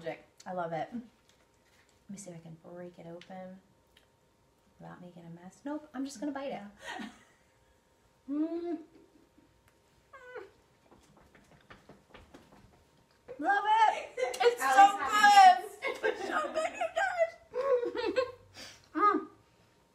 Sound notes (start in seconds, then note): 7.0 laughs; 10.9 foot stomps